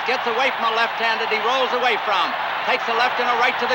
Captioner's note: crowd cheering continues